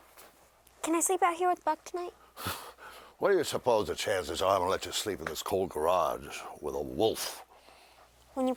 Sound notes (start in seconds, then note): 2.6 chuckles